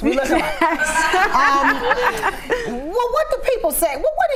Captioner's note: everyone laughs